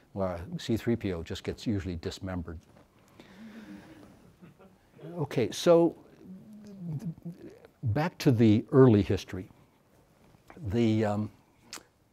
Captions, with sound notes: where C-3PO just gets usually dismembered. (audience laughs) Okay, so back to the early history.